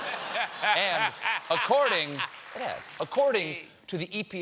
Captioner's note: laughter